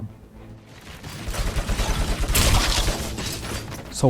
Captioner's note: machine gun shooting